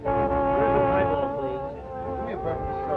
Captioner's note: crowd chatter